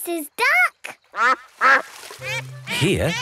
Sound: quacks

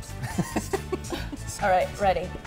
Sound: laughs

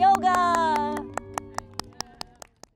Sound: clapping

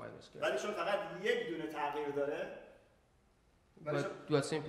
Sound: speaking in farsi

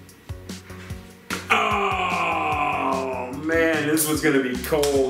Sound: groans

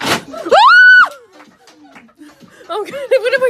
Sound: squeals; screams

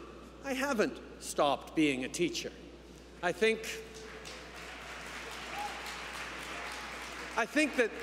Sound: applause

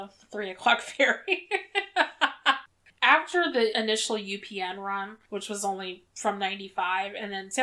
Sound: laughs

